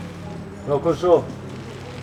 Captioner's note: car in reverse